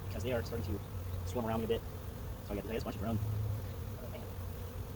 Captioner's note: sped up talking; bees buzzing